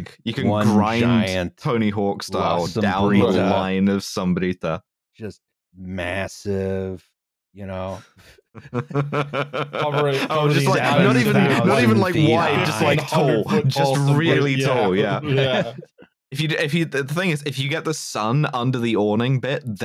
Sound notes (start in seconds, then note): 8.5 laughter; 9.1 chuckles; 15.0 laughs